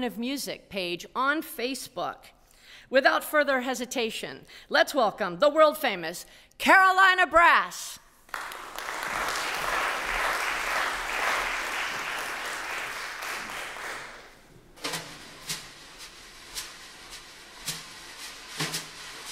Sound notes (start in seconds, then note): 8.2 applause; 15.2 brass music plays